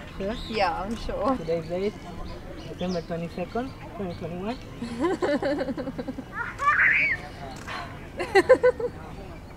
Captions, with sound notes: You start! No, you start. Are you sure? I'm sure Today's day September 22nd, 2021 [Laughter]